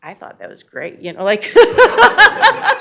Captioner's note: laughs